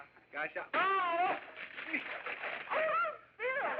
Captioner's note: yelping; gasping